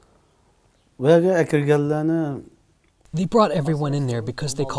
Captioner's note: speaking foreign language